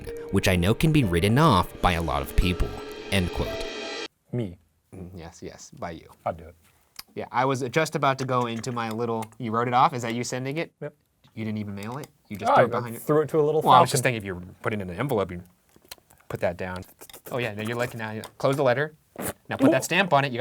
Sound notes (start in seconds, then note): 19.2 blows raspberries